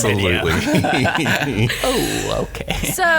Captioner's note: laughs